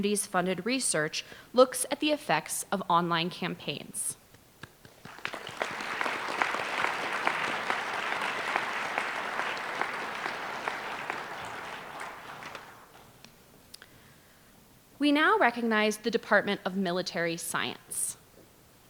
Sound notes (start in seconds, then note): 4.6 applause